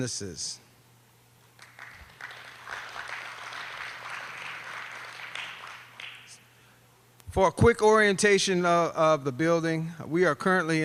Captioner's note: applause